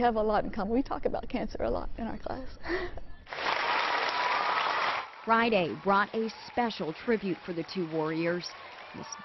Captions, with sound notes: WITH ONE OF HER STUDENTS, NAMED AIDEN. HE HAS BEATEN CANCER TWICE AND HE IS MY CLASS THIS YEAR. WE HAVE A LOT IN COMMON. WE TALK ABOUT CANCER A LOT IN OUR CLASS. [APPLAUSE]